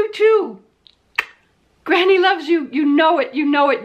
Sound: kissing sound

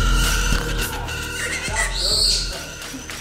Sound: wings flapping; birds squawking

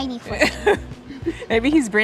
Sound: laughing

